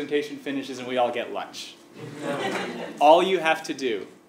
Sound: laugh

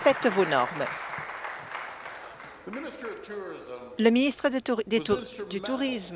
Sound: applause

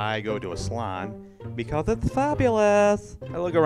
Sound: lisping

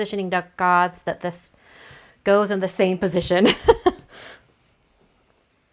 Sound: laughs

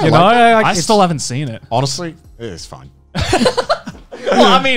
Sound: laughing

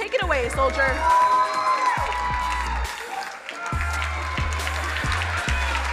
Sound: crowd cheering and applauding

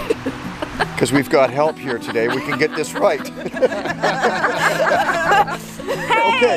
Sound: laughter

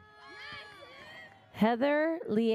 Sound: audience cheers

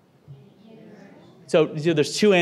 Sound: audience speaking

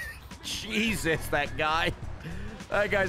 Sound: laughs

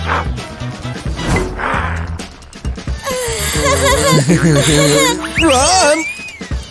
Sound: nervous laughter

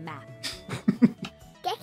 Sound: laughter

